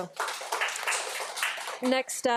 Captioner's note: audience applauding